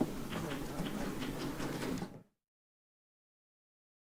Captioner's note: group chattering